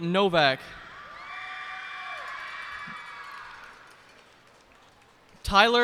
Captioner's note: cheers and applause